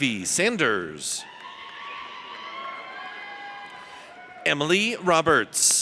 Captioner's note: audience cheers